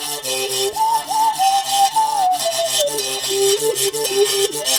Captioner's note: melodic whistling